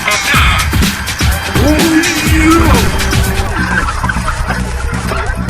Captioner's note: growl